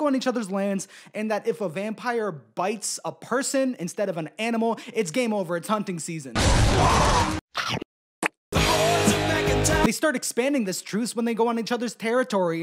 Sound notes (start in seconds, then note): 6.6 chomp